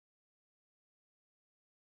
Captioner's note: none